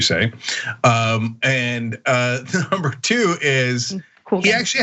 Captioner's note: laugh